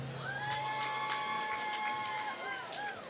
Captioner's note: applause